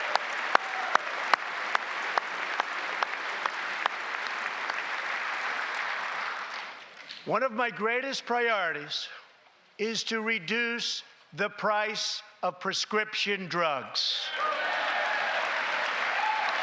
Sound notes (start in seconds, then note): 0.0 cheers and applause; 3.7 applause